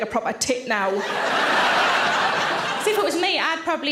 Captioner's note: audience laughing